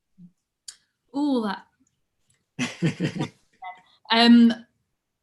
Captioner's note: laughing